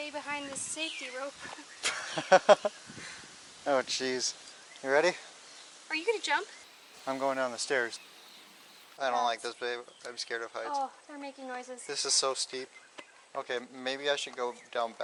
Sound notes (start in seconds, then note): 1.4 laughter